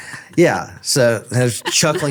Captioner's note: laughing